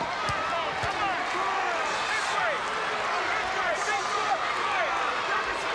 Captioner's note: people chattering indistinctly